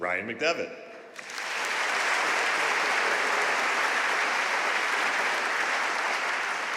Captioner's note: audience cheering and applauding